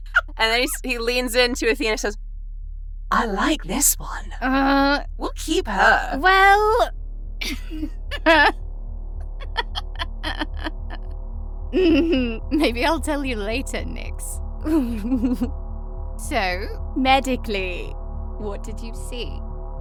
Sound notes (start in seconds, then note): 4.6 groans; 9.4 chuckles; 14.6 chuckles